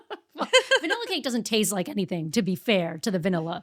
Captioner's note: laughing